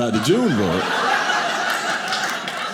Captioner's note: audience laughing